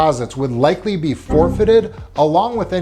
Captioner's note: graphic blipping